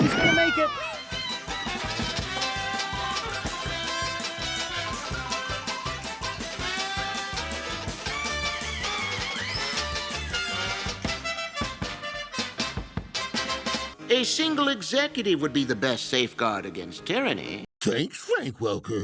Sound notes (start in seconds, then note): 12.5 dignified Frank Welker voice; 16.2 Frank Welker, in Scooby-Doo voice